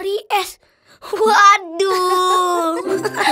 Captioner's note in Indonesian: Nussa, Rarra, Umma tertawa